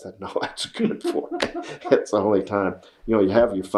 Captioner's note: laughter